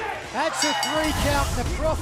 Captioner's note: bell ringing